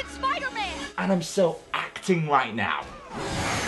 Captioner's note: sarcastically